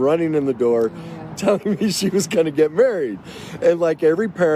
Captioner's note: laughs